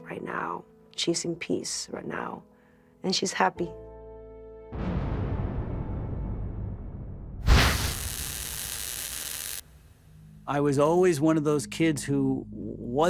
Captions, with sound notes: she's in peace right now, and she's happy. [whoosh] [static] I was always one of those kids who wasn't afraid.